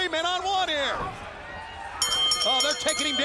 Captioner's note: bell ringing